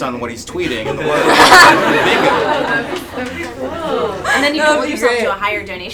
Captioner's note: attendees laugh